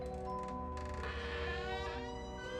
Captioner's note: door squeaking